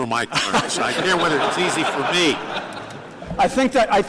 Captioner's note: laughter